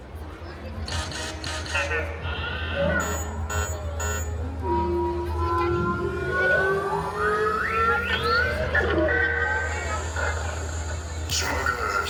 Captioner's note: droid activations sounding